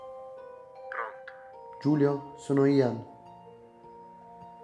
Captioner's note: Giulio on phone